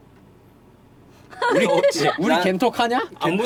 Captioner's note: laughter